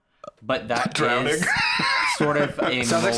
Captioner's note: laughing